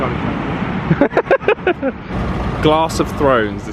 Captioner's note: laughs